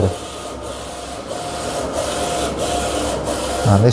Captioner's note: printer machine noise